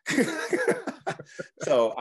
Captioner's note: laughing